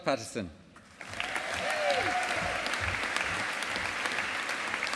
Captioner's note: audience applauding